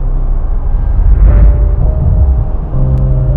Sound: whoosh

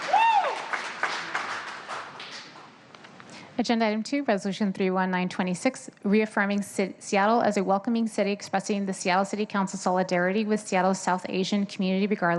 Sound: cheers and applause

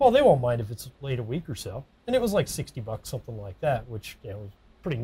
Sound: none

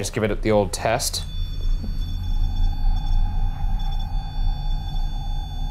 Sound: machine beeping

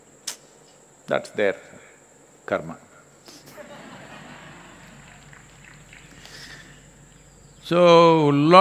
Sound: laughter/Applause

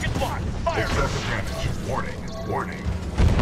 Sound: radio

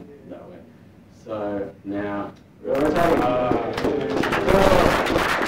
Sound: applause

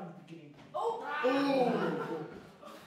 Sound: crowd oohs

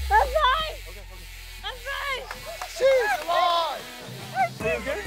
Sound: laughter and cheering

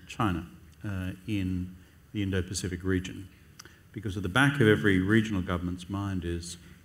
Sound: none

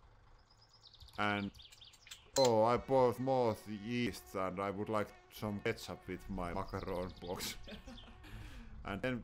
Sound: laughing

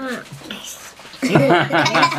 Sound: laughing

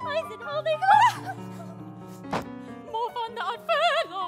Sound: both screaming

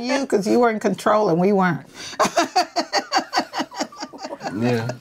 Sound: laughing

